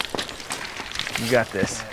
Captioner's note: rocks tumbling